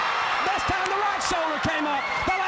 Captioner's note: crowd cheering